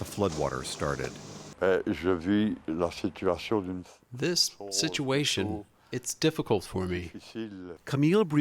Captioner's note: through translator